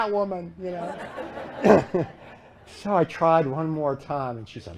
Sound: laughter

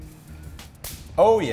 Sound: snapping sound

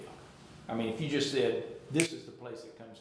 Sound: snapping

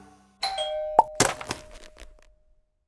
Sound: doorbell

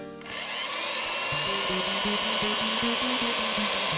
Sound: mixer whirring

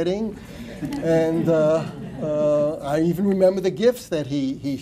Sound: laughter

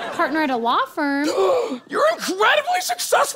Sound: gasp

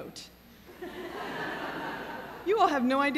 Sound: laughter

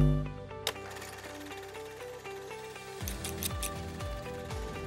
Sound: gentle instrumental music; film reel clicking

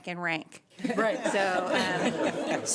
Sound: laughter

